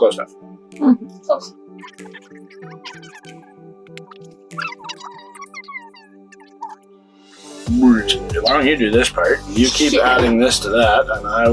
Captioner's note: sped up talking